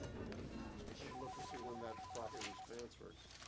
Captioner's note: phone ringing